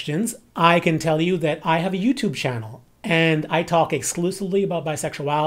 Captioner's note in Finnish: englanniksi